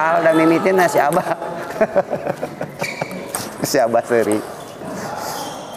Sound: laughs

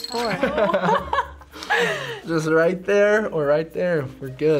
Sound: laughs

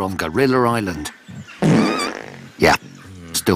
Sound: farts

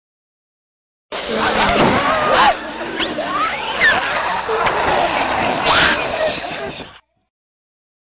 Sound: sound of zombie

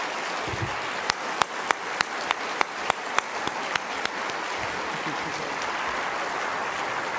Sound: applause

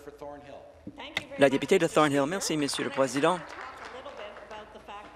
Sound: applause

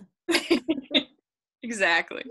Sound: both laughing

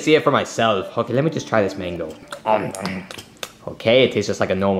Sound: chewing

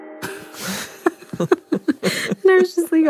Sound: both laugh

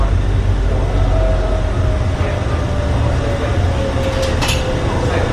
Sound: shuttle rumbling continues

